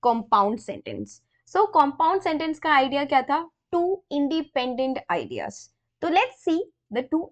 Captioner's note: explaining in hindi